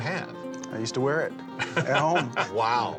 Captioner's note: chuckles